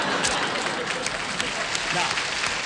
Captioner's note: applause